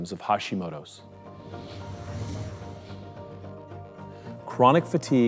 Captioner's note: whooshing